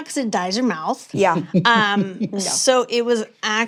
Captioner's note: chuckles